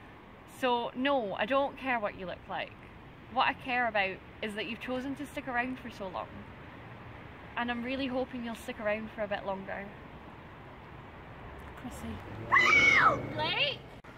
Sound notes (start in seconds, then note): 12.4 blake screams